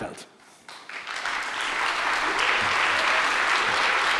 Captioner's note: audience clapping